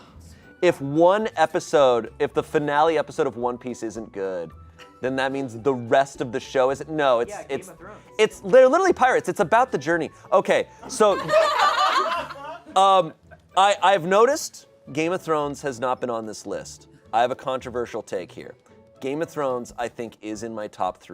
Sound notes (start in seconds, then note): 10.9 audience laughing